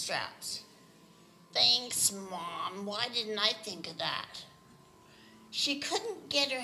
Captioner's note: sarcastically